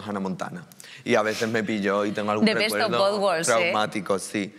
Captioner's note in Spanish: habla en inglés